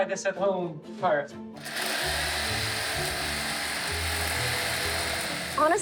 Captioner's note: loud grinding